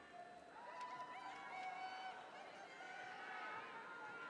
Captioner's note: audience cheering